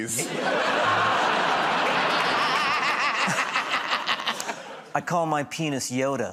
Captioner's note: laughter